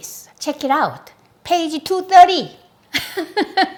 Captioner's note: laughs